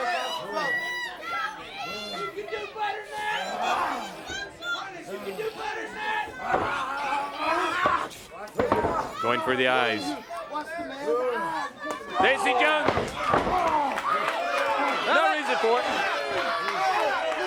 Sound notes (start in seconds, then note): 4.9 crowd chatter; 17.2 crowd cheering